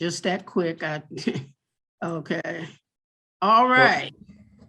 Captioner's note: laughs